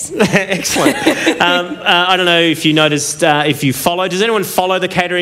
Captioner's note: laughter